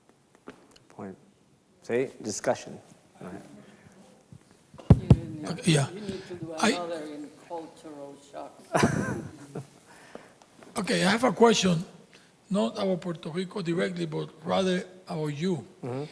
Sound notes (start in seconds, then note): 8.7 laughs